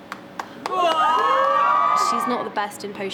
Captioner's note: cast cheering